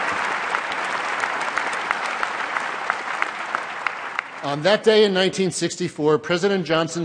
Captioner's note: applause